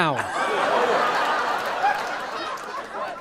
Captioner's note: people laughing